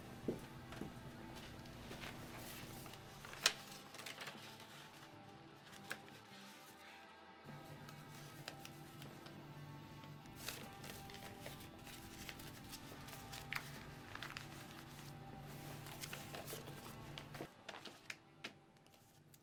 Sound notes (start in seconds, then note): 0.2 footsteps receding; 3.5 paper rustling; 16.0 paper rustles